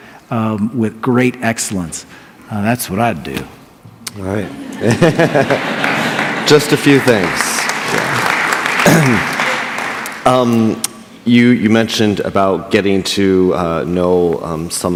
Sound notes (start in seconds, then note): 4.6 laughter; 7.9 applause